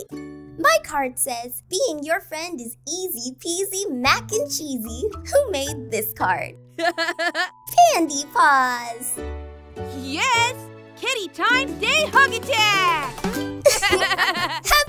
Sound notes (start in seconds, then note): 6.8 chuckles; 13.6 laughs